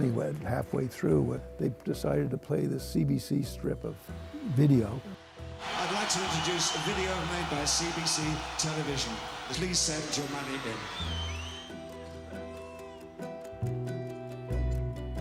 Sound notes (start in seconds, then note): 7.8 cheers and Applause